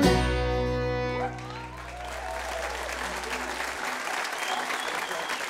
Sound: audience applauds

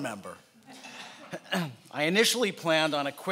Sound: laughing

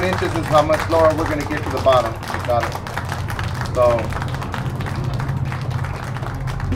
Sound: audience clapping

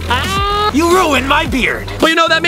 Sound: laughs loudly

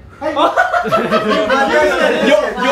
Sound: laughters

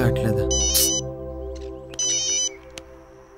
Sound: phone ringing

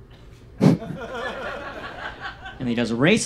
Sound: audience laughs

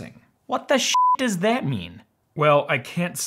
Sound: beep

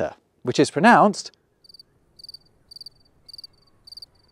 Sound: crickets chirping

